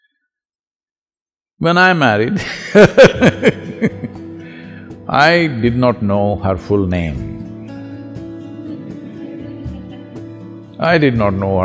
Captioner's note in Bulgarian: Смее се